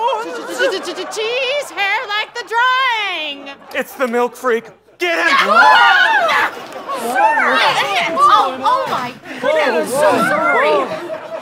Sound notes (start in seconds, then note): 5.2 screaming